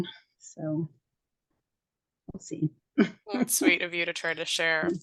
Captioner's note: laughs